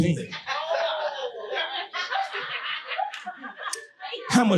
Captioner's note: audience laughing